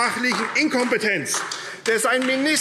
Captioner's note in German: Beifall AfD